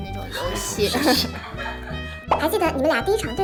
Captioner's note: hahaha